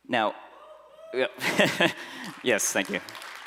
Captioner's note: applause